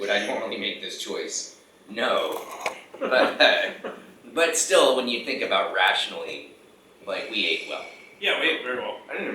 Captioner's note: laughing